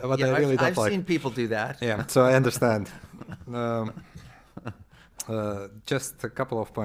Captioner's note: laughter